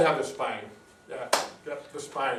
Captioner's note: claps